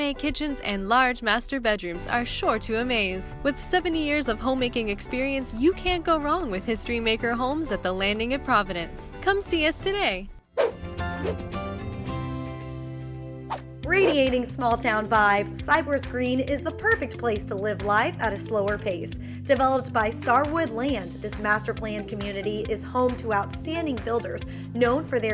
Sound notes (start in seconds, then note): 10.6 whoosh; 13.4 whoosh